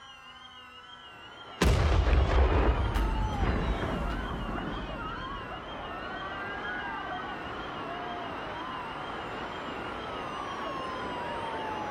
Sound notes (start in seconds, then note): 1.6 impact crashes; 7.5 onlookers shouting